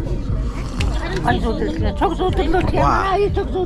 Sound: woman speaks mongolian

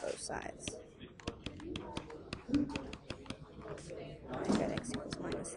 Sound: tapping

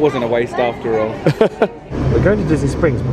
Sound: laughs

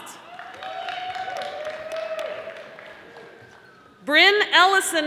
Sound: audience applauding

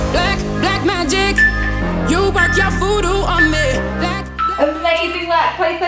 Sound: timer beeping

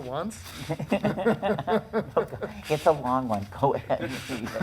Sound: laughing

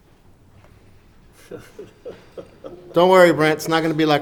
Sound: laughing

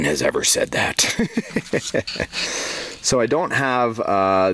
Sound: laughing

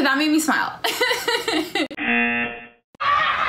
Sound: laughs; buzzer rings; laughs

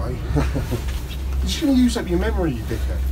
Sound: laughs

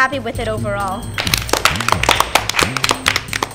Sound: applause

